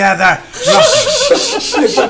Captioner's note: laughs